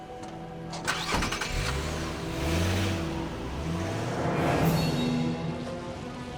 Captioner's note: car Engine Starts